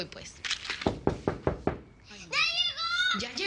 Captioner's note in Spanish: Toques en la puerta